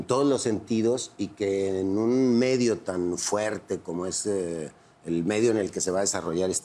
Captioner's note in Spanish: none